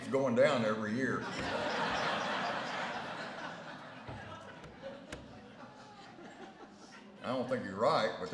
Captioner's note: laughter